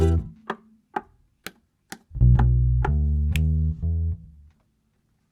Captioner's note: knock knock slap slap knock knock snap